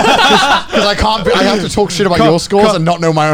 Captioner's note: laughs